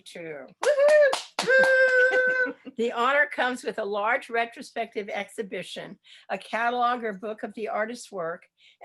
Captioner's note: appplause